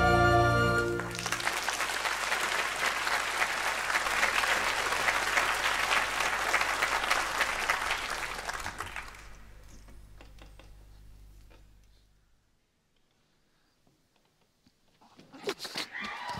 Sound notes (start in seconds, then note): 0.8 applause